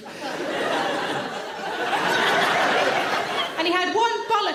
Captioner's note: audience laughing